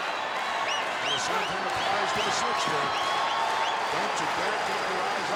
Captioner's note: gorilla speaks faintly